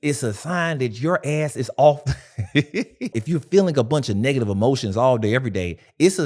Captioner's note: laughing